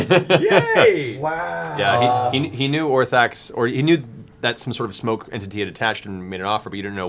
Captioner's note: laughs